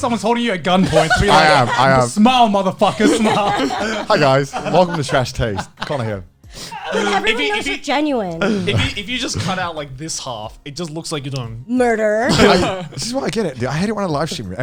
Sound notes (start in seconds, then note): 3.3 cheerily